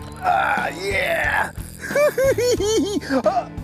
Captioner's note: laughs